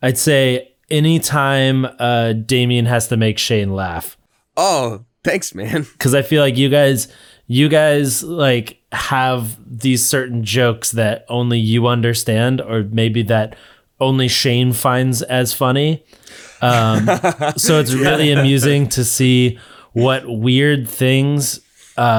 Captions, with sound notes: I'd say any time Damien has to make Shayne laugh. - Oh, thanks man. - 'Cause I feel like you guys have these certain jokes that only you understand or maybe that only Shayne finds as funny. (all laughing) So it's really amusing to see what weird things